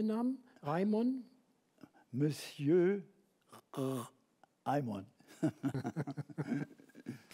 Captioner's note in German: Gelächter